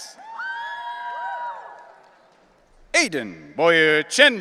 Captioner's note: audience cheering